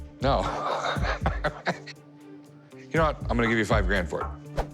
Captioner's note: laughs